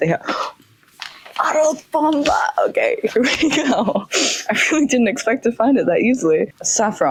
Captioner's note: gasp